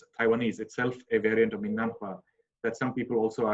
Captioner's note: speaking in a foreign language